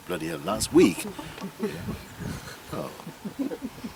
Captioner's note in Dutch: gelach